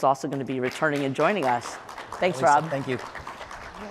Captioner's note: applause